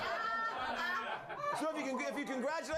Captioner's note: laughter